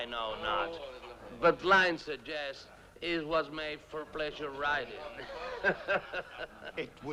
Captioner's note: laughs